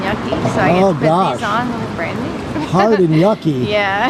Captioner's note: laughs